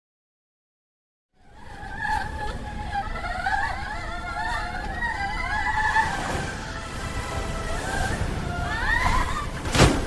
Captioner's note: screaming